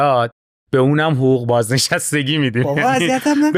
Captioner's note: laughs